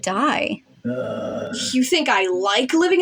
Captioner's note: Mr. Invisible Groans